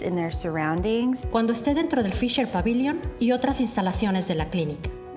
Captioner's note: speaking in Spanish